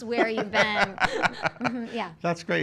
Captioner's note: laughing